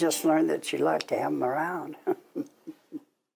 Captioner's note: laughs